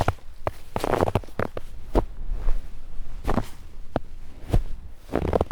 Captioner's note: footsteps